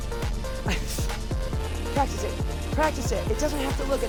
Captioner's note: laughs